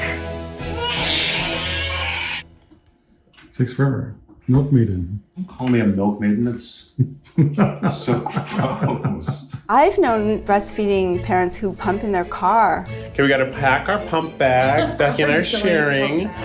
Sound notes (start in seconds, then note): 0.0 baby crying; 7.3 laughing